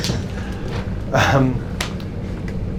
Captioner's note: laughs